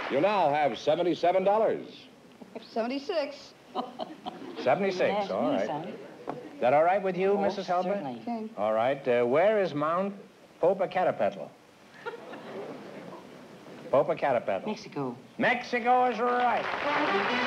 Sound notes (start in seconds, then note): 3.7 laughs; 16.6 trumpet flare